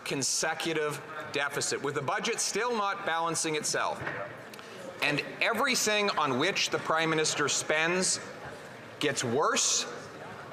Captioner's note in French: voix de l'interprète